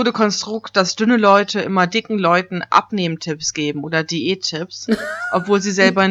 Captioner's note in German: lacht